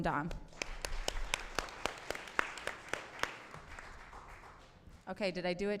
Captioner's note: applause